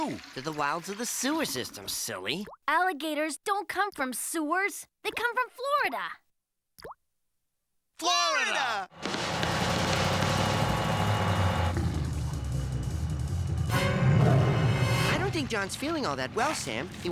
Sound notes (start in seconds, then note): 14.1 growl